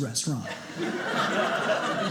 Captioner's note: audience laughing